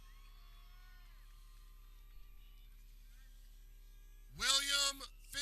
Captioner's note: people cheering